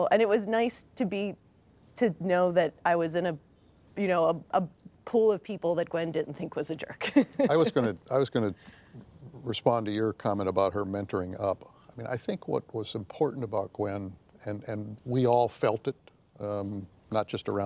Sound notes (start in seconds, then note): 7.0 laughs